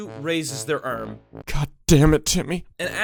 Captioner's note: whispering